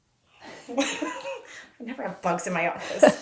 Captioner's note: laughing